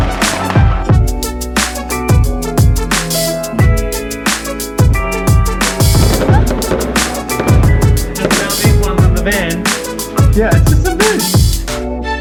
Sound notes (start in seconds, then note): 5.9 fireworks; 9.4 upbeat music